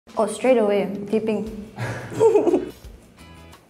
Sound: laughs

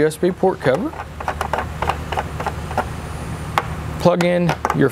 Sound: screw clicks

